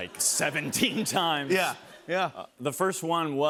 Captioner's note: laughter